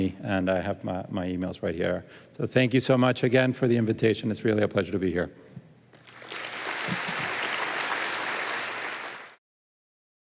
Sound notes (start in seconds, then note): 5.9 applause